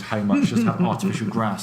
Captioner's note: laughs